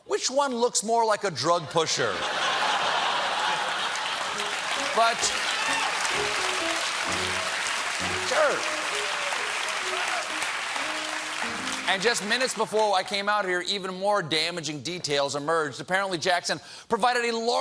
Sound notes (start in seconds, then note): 2.1 laughter; 2.8 applause